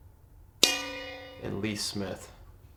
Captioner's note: bell dings